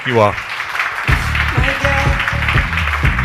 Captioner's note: crowd clapping; upbeat music